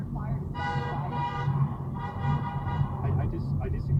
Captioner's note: angry honking